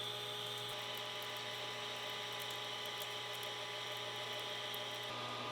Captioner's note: machine whirring